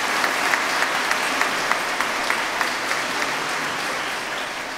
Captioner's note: applause